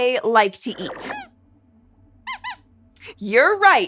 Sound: squeaks squeaks

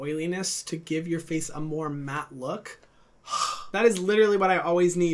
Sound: breathing out

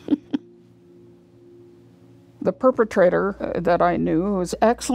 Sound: chuckles

